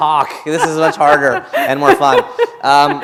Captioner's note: laughter